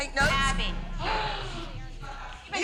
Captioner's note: gasps